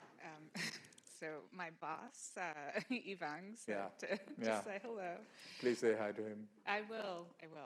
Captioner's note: laughs